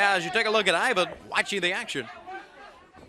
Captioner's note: crowd chatter